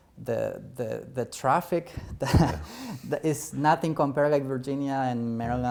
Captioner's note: laughter